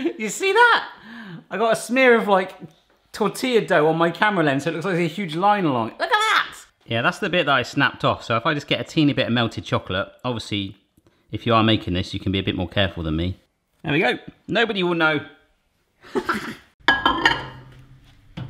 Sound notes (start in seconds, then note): 16.1 all laughing; 16.8 glass jar clattering